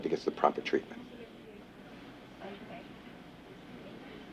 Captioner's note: chatter